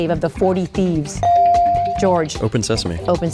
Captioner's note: bell dings